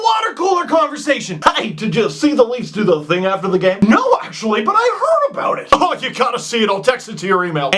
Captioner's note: goofy voice